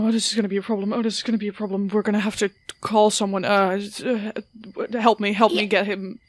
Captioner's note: stammers